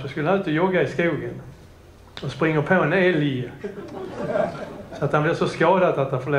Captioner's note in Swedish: Skratt